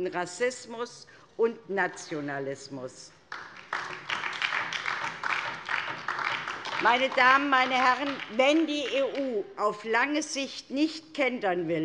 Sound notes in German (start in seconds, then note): 3.2 Beifall DIE LINKE